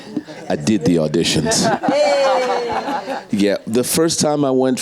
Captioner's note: audience laughs